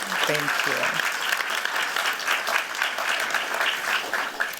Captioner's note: applause